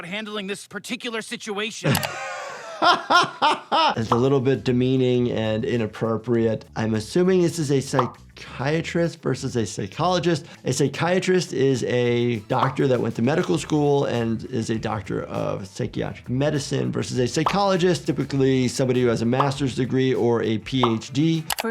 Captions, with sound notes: handling this particular situation. - (laughs) It's a little bit demeaning and inappropriate. I'm assuming this is a psychiatrist versus a psychologist. A psychiatrist is a doctor that went to medical school and is a doctor of psychiatric medicine versus a psychologist, typically somebody who has a master's degree or a PhD.